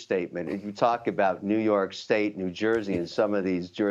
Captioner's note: laughter